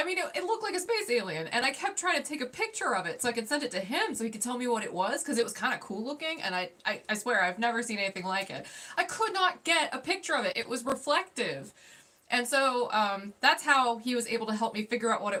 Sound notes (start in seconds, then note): none